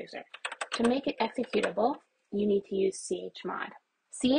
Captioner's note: keyboard presses; keyboard button presses